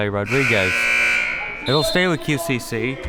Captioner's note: buzzer; whistle